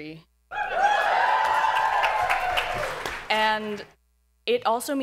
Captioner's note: audience cheers